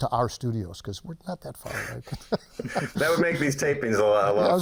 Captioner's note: all laughing